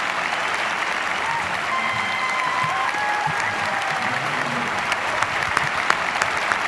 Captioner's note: students continue cheering and applauding